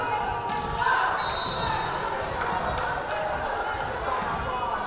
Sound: whistle blaring

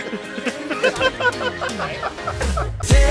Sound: laughing

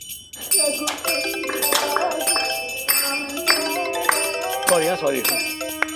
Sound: phone ringing

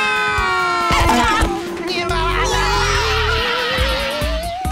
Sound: screaming; talking gibberish, screaming

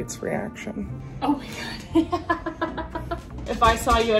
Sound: laughs

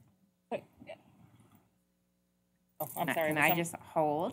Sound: indistinct chatter

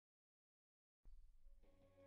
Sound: silence

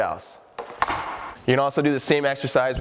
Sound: puck slaps

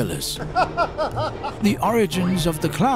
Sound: clown laughing

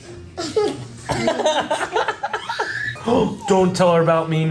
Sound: laughs

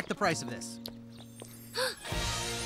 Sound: gasp

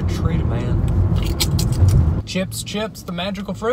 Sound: chips crunching

